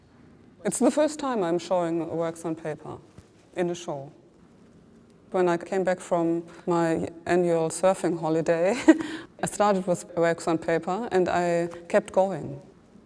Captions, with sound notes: It's the first time I'm showing works on paper in a show. When I came back from my annual surfing holiday, [LAUGHS] I started with works on paper and I kept going.